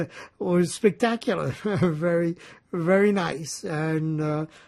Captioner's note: laughing